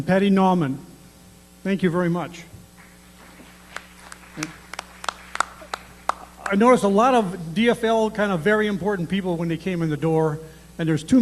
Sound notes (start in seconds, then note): 2.8 applause